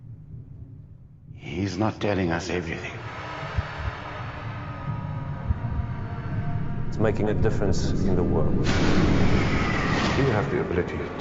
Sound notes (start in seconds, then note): 0.9 reverberating roar; 2.9 warping Voices; 8.8 crashing